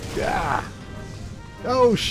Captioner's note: grunt